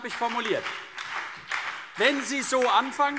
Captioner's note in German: Beifall BÜNDNIS 90/DIE GRÜNEN und DIE LINKE